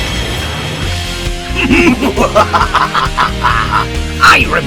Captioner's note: both laugh